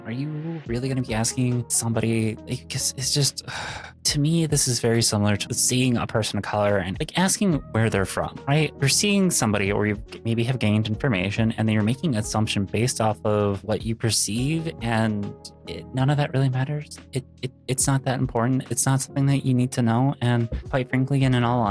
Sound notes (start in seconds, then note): 3.4 sigh